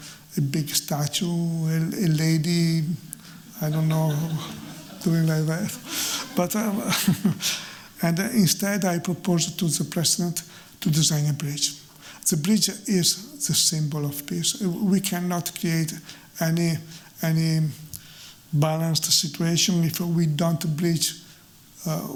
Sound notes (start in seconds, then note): 7.0 chuckles